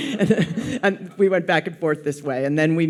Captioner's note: audience laughs